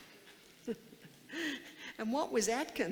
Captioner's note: laughs